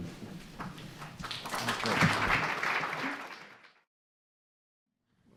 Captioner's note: audience applauding